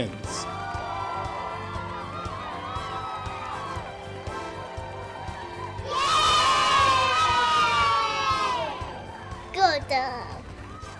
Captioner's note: cheering